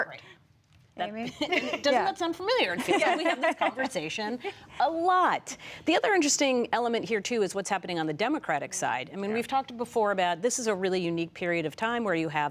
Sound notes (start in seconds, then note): 1.2 laughter